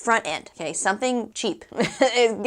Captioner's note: laugh